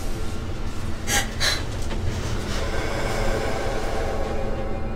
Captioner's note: whimpering